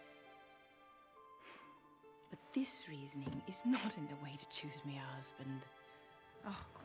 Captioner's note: sighs